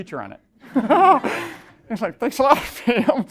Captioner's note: laughing